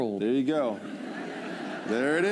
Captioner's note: laughter